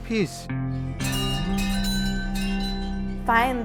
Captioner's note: bells ringing